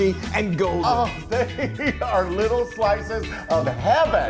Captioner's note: laughs